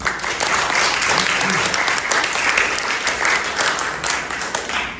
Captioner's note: applause